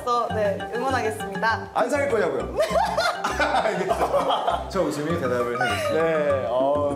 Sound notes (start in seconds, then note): 2.6 laugh